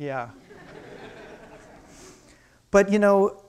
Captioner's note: crowd laughing